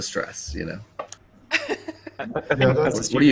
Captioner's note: laughs